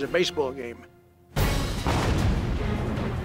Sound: explosion

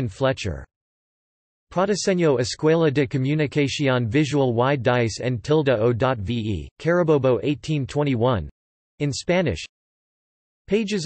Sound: in Spanish

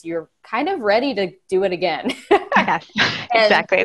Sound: laughing

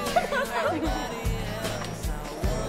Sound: girls laughing

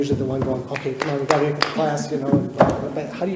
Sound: claps

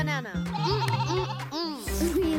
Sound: bleating

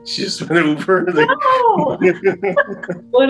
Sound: laughs

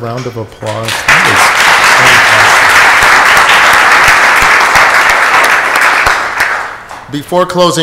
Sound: audience applauds

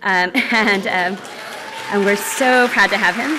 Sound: laughing; audience cheers

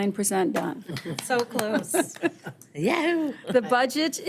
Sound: chuckling

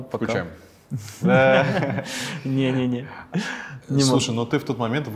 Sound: laughs

